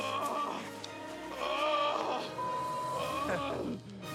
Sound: groaning continues

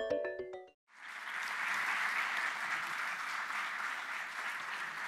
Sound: audience applauding

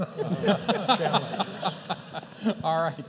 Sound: laughter

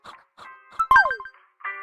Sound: confirmation sound

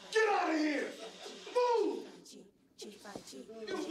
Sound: chanting Continues

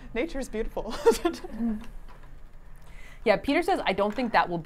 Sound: laughs

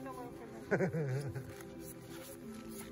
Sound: laugh

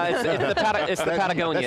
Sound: all laughing

